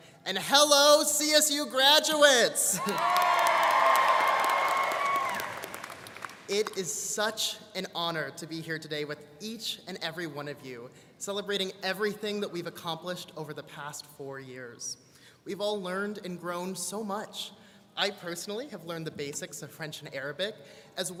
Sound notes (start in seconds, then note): 2.7 students cheering and applauding